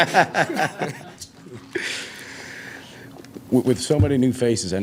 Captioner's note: laughing